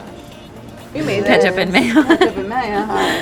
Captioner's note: laughs